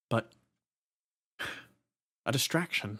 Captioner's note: sigh